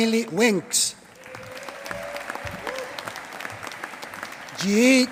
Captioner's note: applause